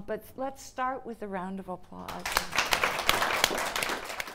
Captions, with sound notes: But let's start with a round of applause. (audience applauding)